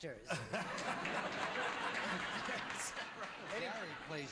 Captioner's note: laughter